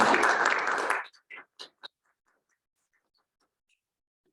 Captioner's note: students clapping